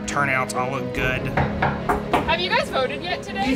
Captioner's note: knocking